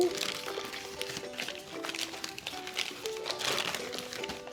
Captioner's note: paper crinkling